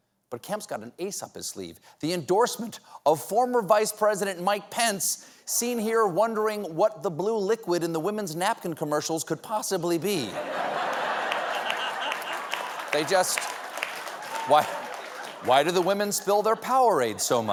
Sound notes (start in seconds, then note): 10.6 applause; 12.0 laughter